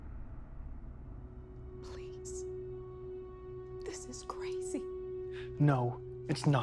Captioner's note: dark music; whispering